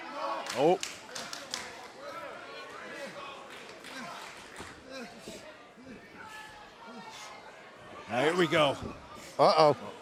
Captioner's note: crowd chatter